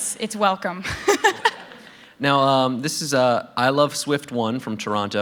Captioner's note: laughter